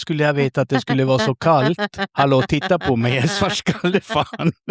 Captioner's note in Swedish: skratt